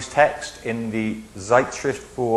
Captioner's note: speaks in foreign language